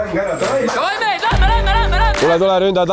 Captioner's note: yelling